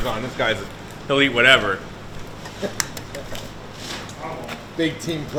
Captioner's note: egg cracking